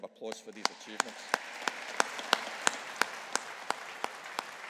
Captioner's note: audience applauding